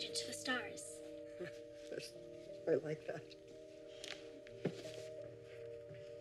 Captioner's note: chuckles